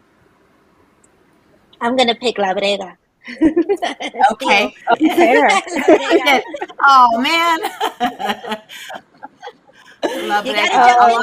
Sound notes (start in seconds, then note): 3.7 laughs; 8.2 laughs